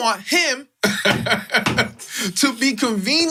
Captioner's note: laughs